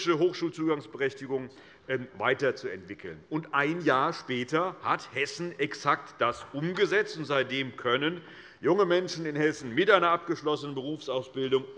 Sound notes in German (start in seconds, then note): none